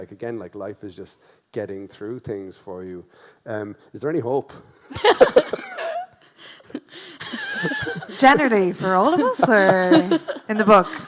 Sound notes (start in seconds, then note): 5.1 laughs